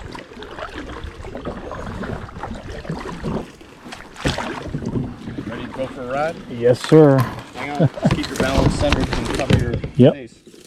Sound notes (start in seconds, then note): 7.4 laughs